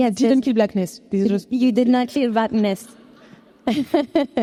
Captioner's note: chuckles